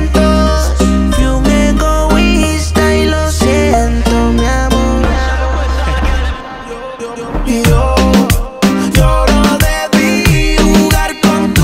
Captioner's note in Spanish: Jajaja